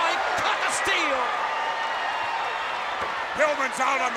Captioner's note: audience cheers